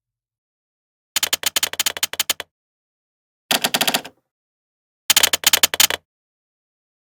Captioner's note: sound of keystrokes